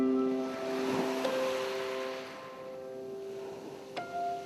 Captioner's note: ambient music; waves crashing